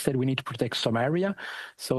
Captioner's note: speaking French